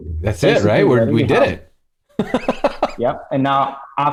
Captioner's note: laughter